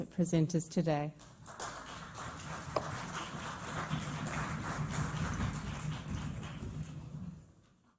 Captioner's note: applause